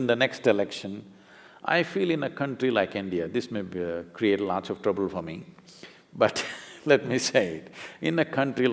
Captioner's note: laughs